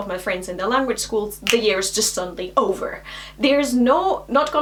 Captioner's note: snaps fingers